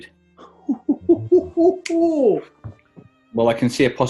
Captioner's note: chortles and clicks finger